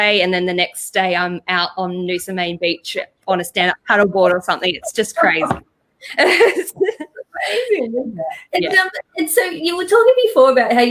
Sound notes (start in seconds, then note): 6.0 both chuckle